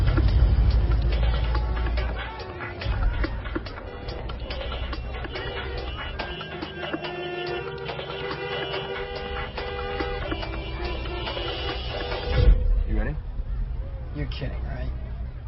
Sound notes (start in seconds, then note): 4.0 car horns blaring